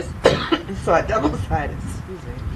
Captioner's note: coughs